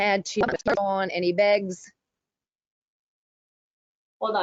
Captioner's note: sound loss